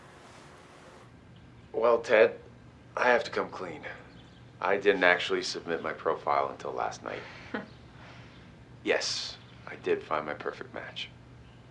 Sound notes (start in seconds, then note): 7.5 Vivian chuckles